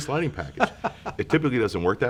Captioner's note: laughs